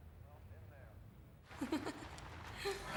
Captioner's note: laughing